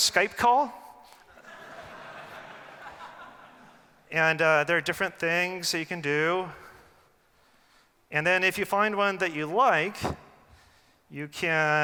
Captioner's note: laughing